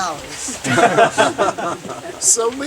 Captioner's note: raucous laughter